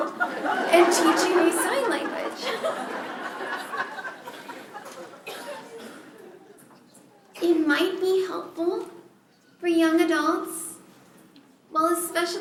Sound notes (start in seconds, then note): 3.3 laughter